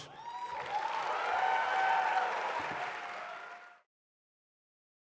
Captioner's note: cheering and applause